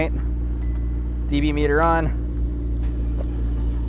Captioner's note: electronic dinging